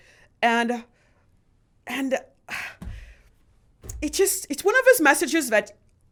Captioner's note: sighs